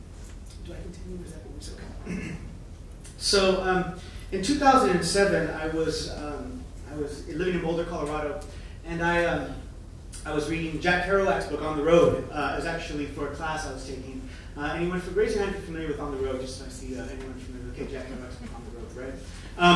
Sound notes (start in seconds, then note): 1.9 clears throat